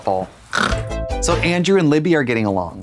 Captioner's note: Katya snorts; synth bop